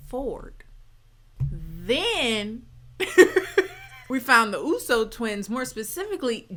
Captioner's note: laughs